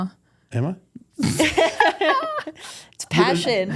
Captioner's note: group laughs